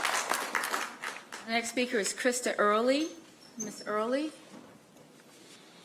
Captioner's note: applause